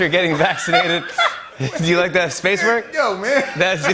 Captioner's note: laughter